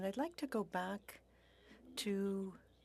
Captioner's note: speaking French